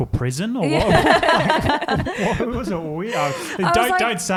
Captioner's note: all laugh